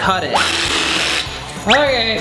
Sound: jigsaw roaring

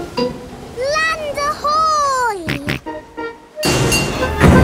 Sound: snorts

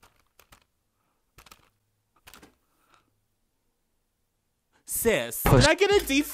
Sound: plastic rattling

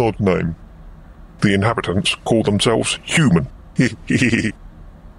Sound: laughs

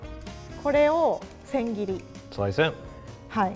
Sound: speaks in foreign language

